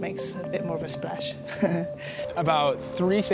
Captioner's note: laughs